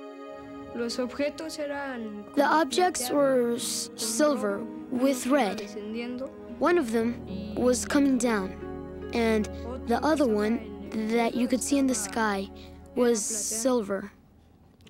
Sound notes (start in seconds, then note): 0.8 speaking spanish